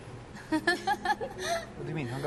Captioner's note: laughs